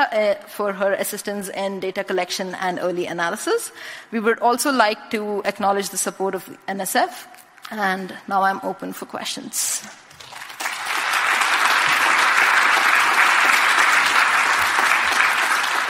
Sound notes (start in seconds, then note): 10.1 applause